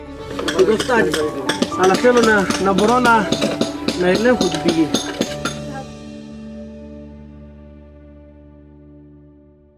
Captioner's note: stone chiseling